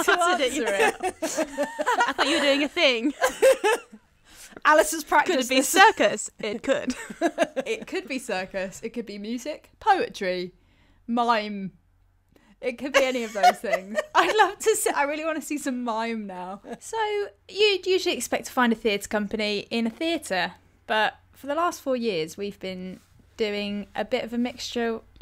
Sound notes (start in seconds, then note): 3.5 laughing; 12.9 laughs